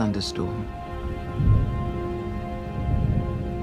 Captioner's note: thunder rumbles